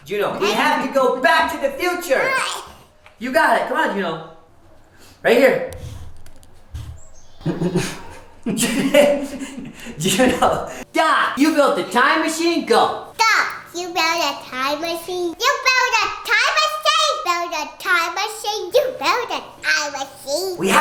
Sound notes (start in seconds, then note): 7.3 laughing